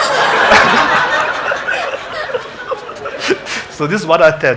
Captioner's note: congregation laughing